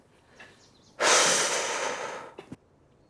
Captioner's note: sigh